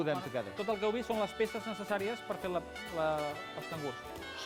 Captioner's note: non-english speech